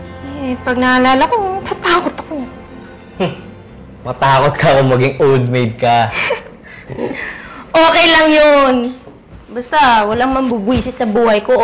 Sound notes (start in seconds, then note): 3.0 scoffs